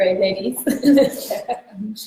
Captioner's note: laughs